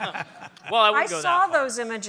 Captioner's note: laughter